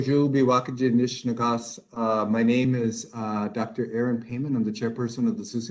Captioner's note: speaking in native language